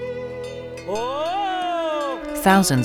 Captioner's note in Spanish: Cabrero llamando a sus cabras